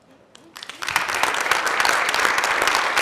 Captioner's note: applause